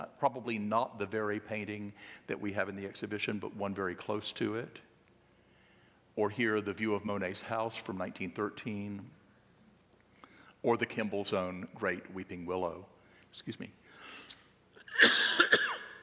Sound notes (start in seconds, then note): 14.8 coughing